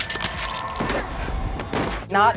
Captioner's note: squish; thud